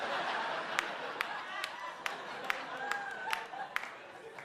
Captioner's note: audience laughs